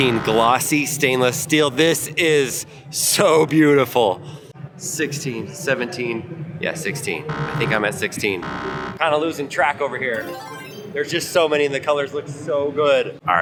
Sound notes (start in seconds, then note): 0.0 buzzer sounds; 8.4 buzzer sounds; 10.6 buzzer jingles